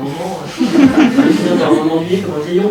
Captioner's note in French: rires